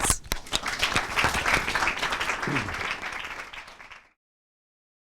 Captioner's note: clapping